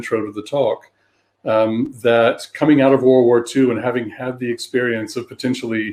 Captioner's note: erm